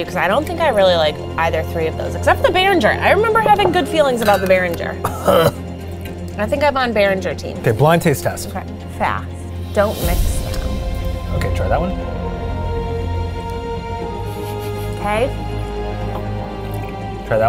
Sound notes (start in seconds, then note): 5.0 gagging; 13.4 dramatic music; 16.3 gags